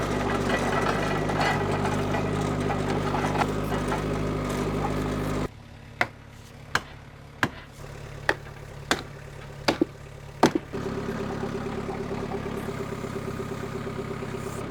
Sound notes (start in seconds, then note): 0.0 metal clanking; 5.9 hammer banging; 11.6 machine whirring